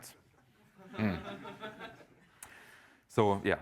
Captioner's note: laughter